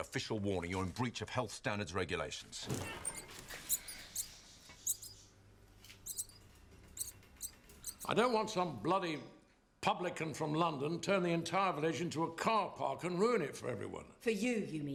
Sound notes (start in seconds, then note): 4.8 rats squeaking